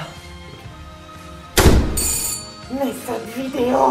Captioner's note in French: porte qui claque et sonnette